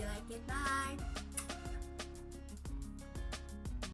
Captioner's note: kiss